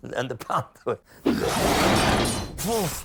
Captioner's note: panther snarls